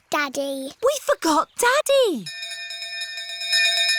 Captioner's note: bell continues dinging